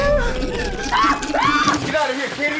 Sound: Peter screaming

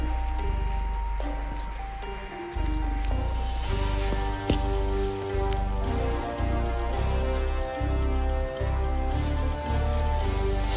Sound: dinosaur roars

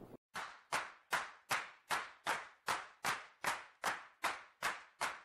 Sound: rhythmic clapping sounds

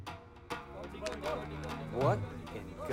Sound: shouting

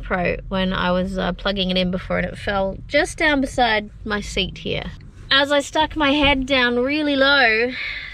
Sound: none

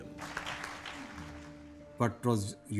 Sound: audience applauds

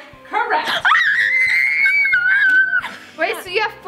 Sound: screaming

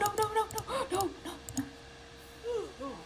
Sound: le gasp

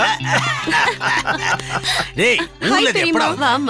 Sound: laughs

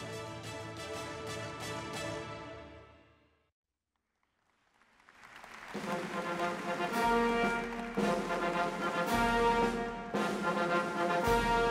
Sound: applause

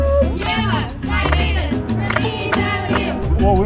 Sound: clapping

